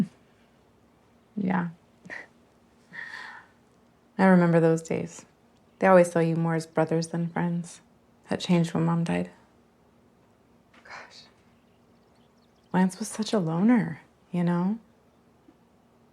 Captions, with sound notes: - Mm, yeah. (chuckles) I remember those days. They always saw you more as brothers than friends. That changed when Mom died. Gosh, Lance was such a loner, you know?